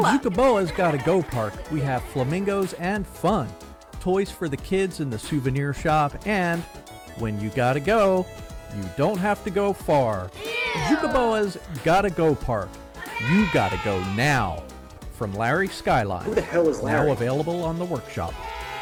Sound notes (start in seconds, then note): 0.0 kids giggling; 10.4 kids say ewwwwww